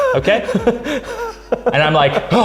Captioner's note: laughing